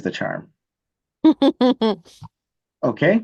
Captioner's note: laughs